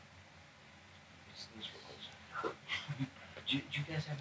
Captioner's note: interviewers chatter